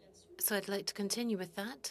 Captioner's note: speaking French